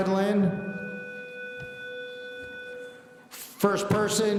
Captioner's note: school bell buzzing